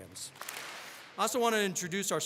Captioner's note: all clap